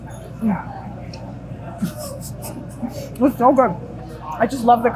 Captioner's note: chuckling